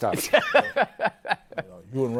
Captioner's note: laughs